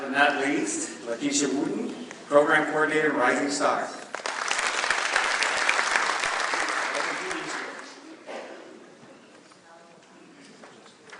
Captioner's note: clapping